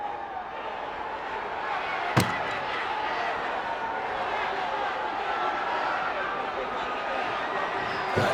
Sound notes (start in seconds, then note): 2.1 belt thuds; 2.1 crowd yelling